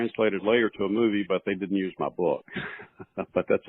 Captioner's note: laughs